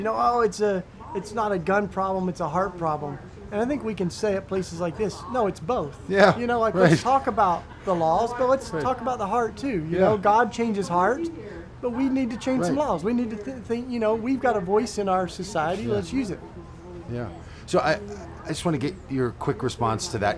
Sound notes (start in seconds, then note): 6.1 laughs